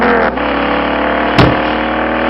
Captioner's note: thud